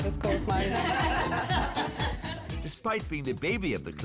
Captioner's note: class laughing